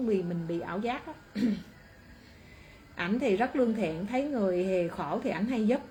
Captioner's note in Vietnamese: hắng giọng